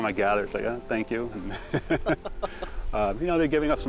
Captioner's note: laughing